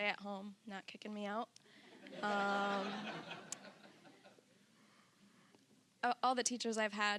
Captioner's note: audience laughing